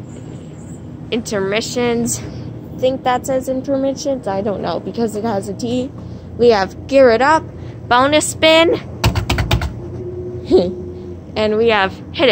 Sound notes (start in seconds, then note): 10.5 chipmunk Laughs